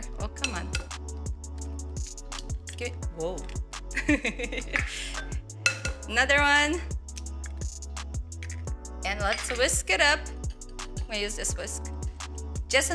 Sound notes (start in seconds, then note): 4.0 laughs